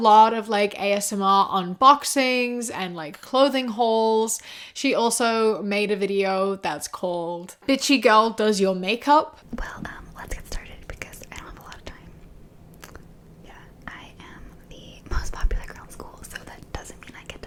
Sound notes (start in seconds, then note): 9.5 whispered